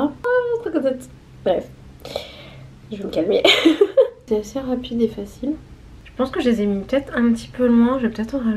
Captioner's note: laughs